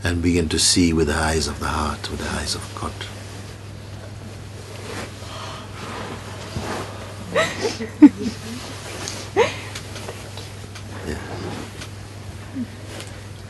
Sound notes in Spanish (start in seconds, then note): 7.3 risas y sollozos